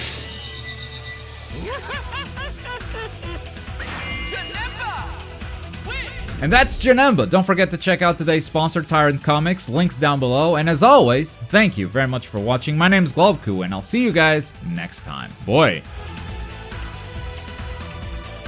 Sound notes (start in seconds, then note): 1.7 Janemba laughs mockingly